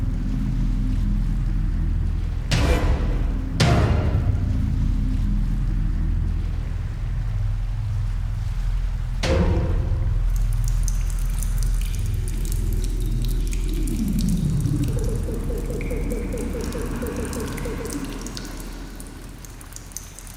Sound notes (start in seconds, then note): 0.1 ominous music; 2.1 dramatic musical score; 5.9 water flows; 9.2 ominous music; 11.3 water trickles; 13.9 ominous music